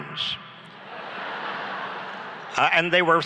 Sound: laughs

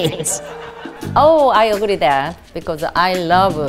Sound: audience laughs

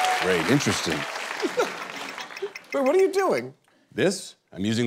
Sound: laughs

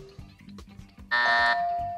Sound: bell dings; buzzer

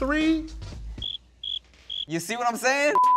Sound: crickets Chirping

